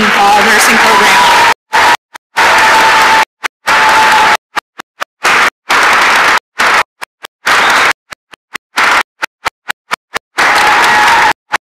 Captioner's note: applause and cheering